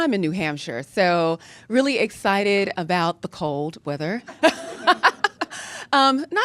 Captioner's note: laughs